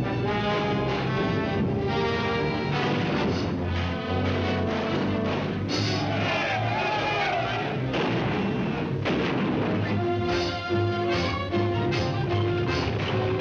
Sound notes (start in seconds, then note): 5.8 men shouting; 7.8 artillery firing; 8.3 dramatic music